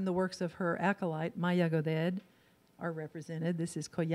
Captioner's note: in foreign language